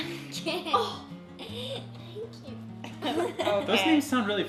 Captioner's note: gasps